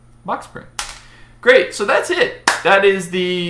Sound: claps

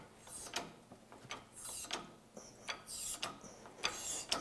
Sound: hydraulic hissing

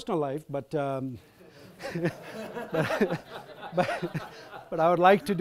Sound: audience laughs

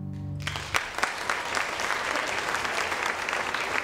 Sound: applauding

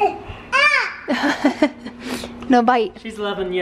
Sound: laughs

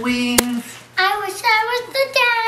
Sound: slap sound

